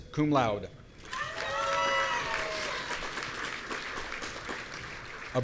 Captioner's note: audience cheering